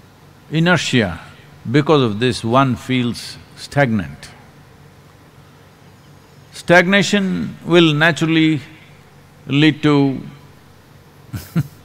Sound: laughs

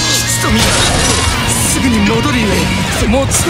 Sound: glass shatter

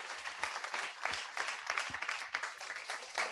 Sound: clapping

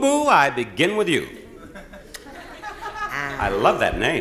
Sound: audience laughing

